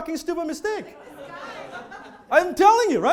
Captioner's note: audience laughing